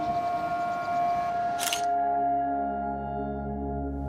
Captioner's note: camera shutter sound